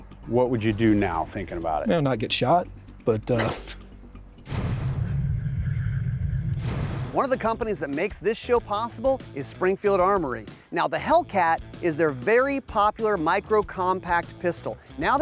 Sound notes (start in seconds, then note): 3.7 laughs; 4.6 electronic whirring